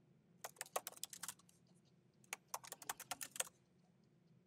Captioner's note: keyboard clacking